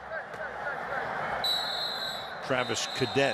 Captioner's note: onfield chatter